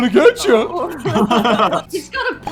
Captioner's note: laughter